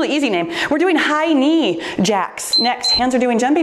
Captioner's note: timer beeps